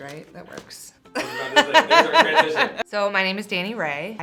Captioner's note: laughs